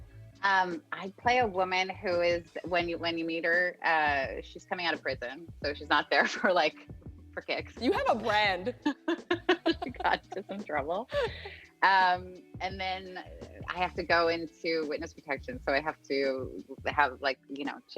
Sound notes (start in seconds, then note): 7.9 laughing